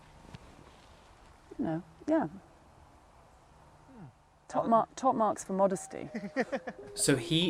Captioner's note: laughs